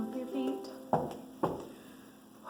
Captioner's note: feet stomping